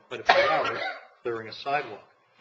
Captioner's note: coughing